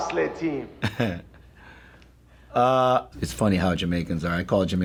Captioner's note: chuckles